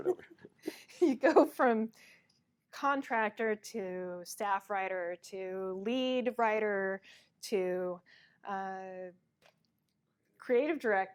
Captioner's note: laughs